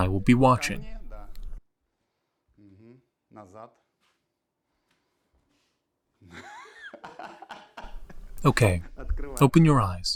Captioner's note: laughing